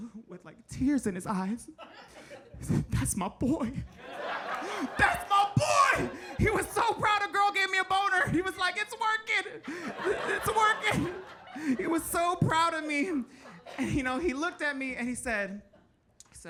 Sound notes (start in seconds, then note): 1.8 audience laughing; 3.9 audience laughing